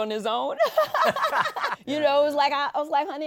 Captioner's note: laughs